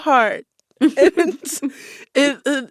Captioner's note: laughter